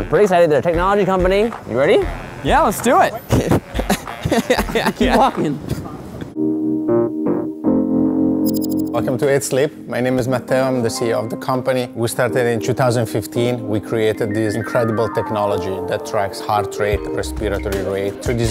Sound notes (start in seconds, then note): 3.1 laughs; 6.5 keyboard music